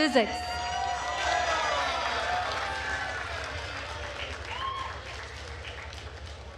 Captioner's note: attendees cheering and applauding